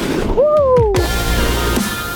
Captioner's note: shouts; upbeat music